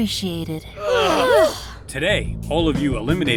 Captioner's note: sighs of relief